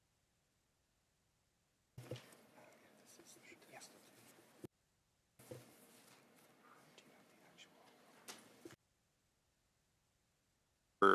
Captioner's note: no audio